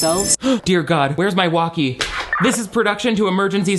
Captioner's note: gasps; 2-way radio signal crackling